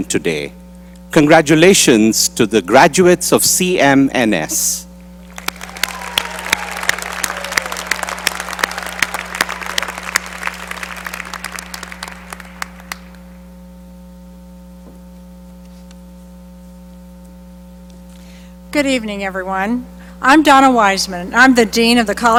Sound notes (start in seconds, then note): 7.8 applause